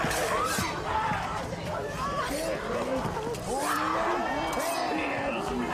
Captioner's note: growling; screaming